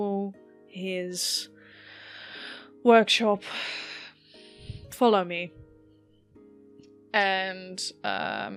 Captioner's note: sighs